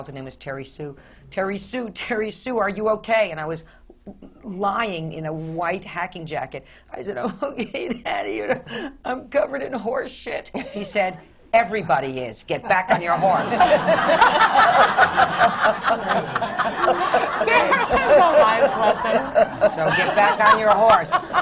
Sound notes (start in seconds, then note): 7.2 sobbing; 13.0 laughter